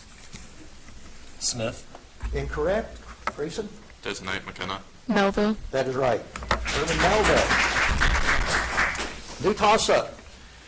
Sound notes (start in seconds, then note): 6.5 audience applauds